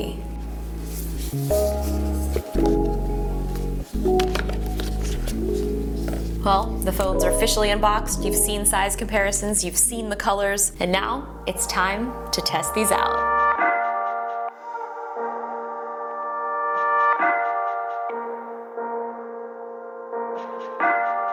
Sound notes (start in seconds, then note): 0.3 soft electronic music; 3.3 boxes clink; 13.6 soft electronic music